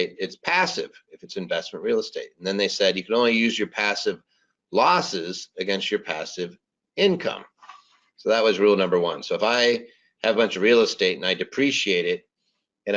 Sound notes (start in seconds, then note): none